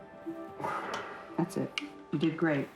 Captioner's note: breath